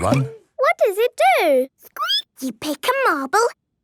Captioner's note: squeaking